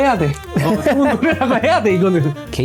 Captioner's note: laughs